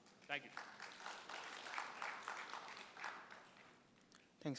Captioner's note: applause